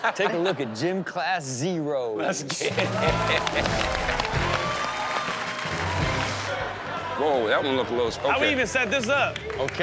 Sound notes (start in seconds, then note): 2.6 laughs; 2.6 audience cheers and applauds